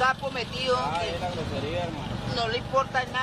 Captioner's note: officer speaks in foreign language